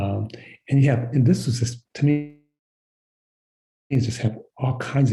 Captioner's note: sound cuts out